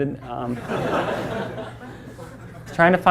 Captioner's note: class laughs